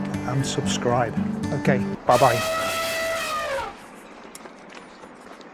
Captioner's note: elephant trumpets!